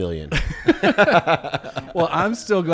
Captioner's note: all laugh